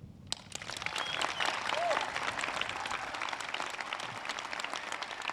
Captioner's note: audience cheers and claps